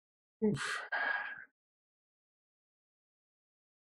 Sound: sighing

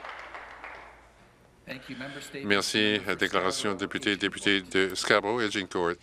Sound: some Applause

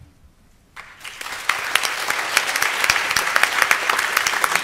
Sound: applause

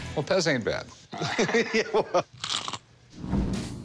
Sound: chuckles

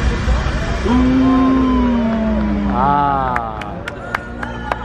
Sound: friends exclaim; guests applaud

